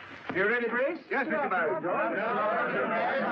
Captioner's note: men clamoring